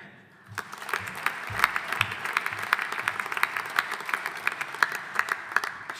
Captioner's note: audience applauding